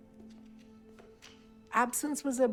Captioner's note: note rustles